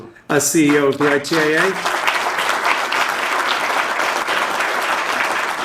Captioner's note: audience applauding